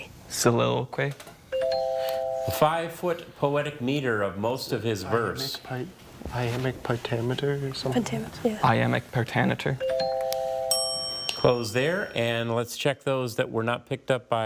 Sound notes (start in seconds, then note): 1.5 tone chimes; 9.8 tone chimes; 9.8 bell dings